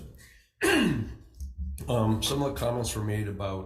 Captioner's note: senator clears throat